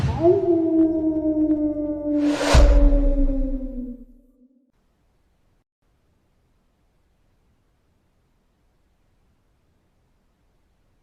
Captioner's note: coyote Howl